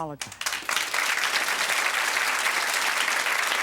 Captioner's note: audience Clapping